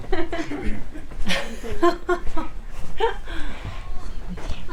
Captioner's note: people laughing